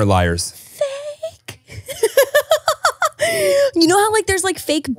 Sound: laughing

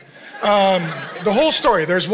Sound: congregation laughing

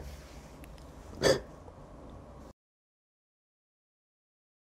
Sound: crying

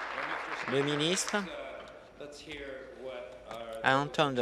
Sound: applause

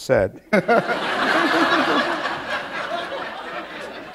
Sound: laughter

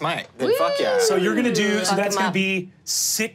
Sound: cheers

